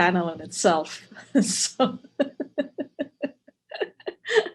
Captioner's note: laughing